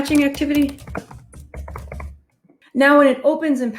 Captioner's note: keyboard clicking